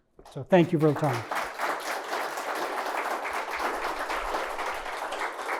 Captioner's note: audience applauding